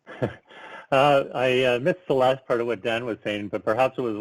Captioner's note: chuckles